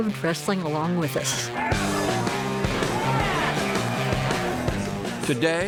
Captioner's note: lighthearted rock music; audience cheering